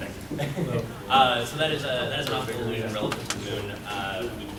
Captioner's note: mumbling from audience